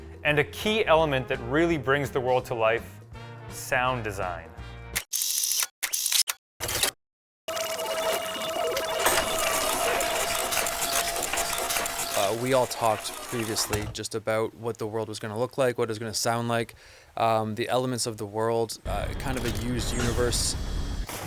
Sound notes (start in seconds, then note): 5.0 mechanical clicking; 6.7 lever click; 7.4 computer beeping; 7.9 heavy motor